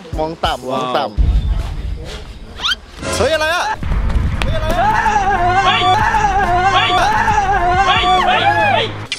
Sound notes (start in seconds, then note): 3.8 running; 4.5 screams; 5.7 shouts; 7.7 scream continues